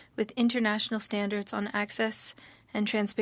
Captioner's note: speaking French